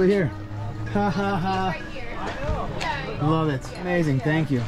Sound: chuckling

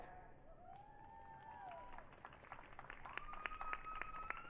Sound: audience cheering

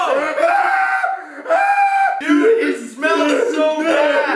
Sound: screaming

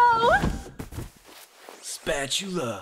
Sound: thud

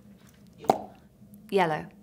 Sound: finger popping

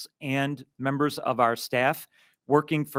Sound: none

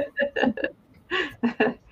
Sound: laughter

